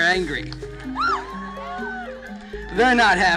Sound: hyped crowd sounds

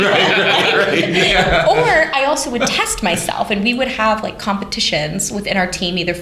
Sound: laughter

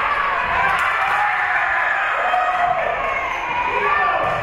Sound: spectators cheering

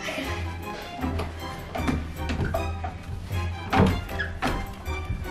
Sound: wood creaking

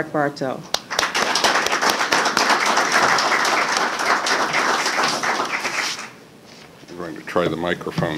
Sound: applause

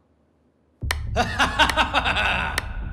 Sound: laughing

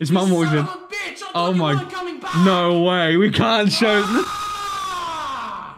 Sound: laughing

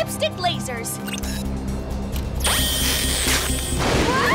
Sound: all scream

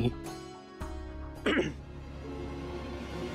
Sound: clearing throat

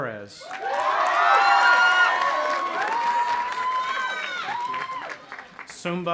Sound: audience applauding and cheering

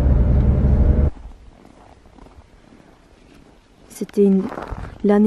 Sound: footsteps in the snow

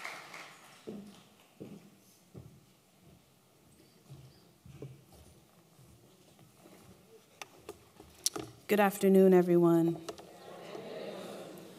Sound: applause

